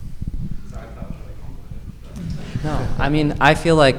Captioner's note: speaking faintly